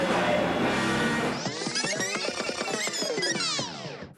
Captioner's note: tape whirrs